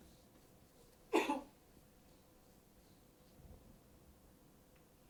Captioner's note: coughs